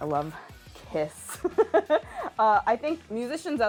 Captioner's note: laughing